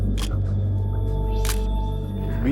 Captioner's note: camera shutter click